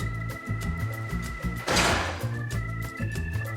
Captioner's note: awkward door slam